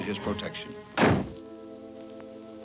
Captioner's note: door slams